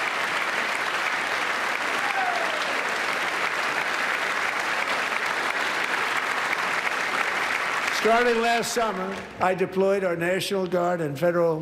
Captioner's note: applause